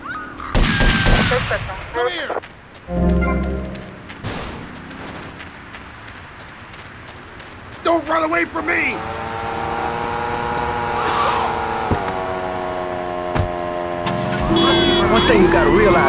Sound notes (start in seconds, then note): 0.0 sirens; 0.5 gunshots; 2.4 sirens; 4.2 gunshots; 4.7 sirens; 11.2 sirens